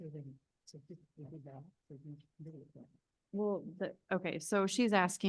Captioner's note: speaking faintly off mic